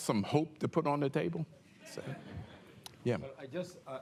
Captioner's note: laughter